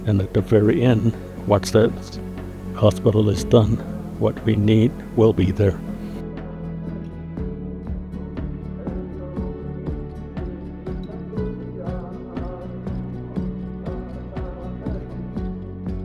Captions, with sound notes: And at the very end, once that hospital is done, what we need will be there. (gentle music continues) (people chanting)